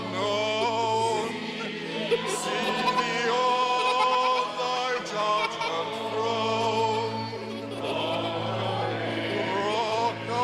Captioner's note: laughter